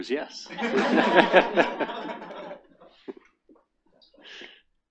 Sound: attendees laughing

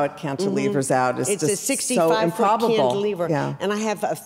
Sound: murmurs

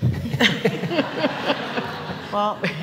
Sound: laughter

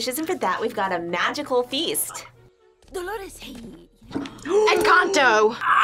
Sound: gasps

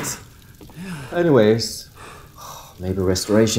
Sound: guard hyperventilates lightly

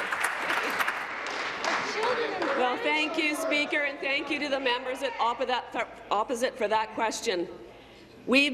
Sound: applause

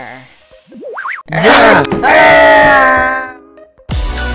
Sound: both Screaming

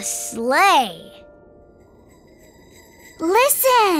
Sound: bells ringing

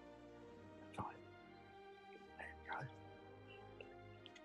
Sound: whispers

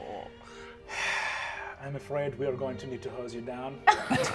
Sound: laughs pitifully; sighs deeply; laughs

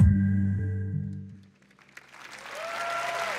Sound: applause

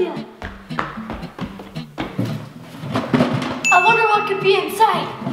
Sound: weighted footsteps; box contents rattling; bell ding

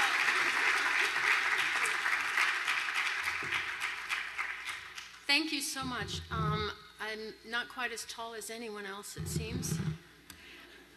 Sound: applause

